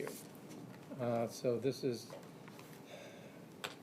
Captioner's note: none